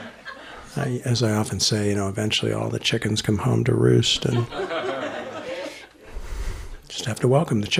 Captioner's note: laughter; laughter